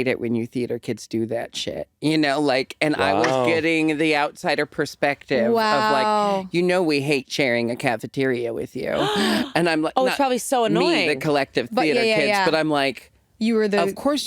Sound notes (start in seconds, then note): 9.0 gasps